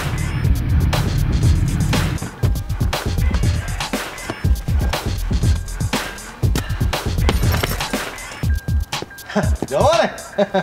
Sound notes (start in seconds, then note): 7.2 bag thuds; 10.1 laughs